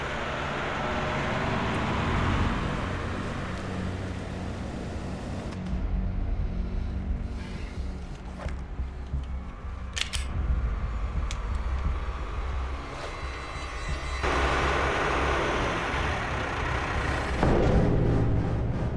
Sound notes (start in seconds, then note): 6.7 sighs; 9.9 cocking gun; 17.3 thud